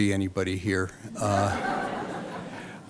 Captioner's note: laughter